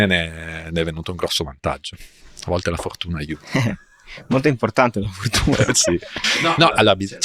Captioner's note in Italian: risate